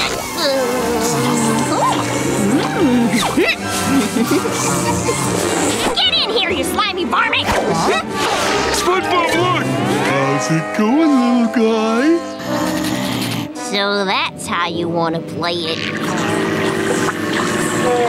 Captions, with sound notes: [groaning] [humming] Get in here you slimy varmint! SpongeBob look! How's it going little guy? [growling] So that's how you want to play it? [buzzing]